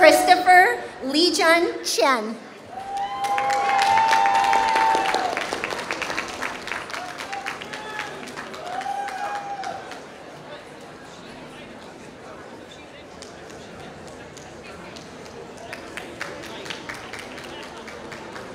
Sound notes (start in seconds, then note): 7.0 applause